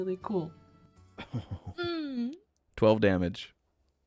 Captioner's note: chuckles and I make a pained noise